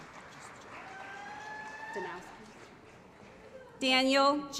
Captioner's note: applause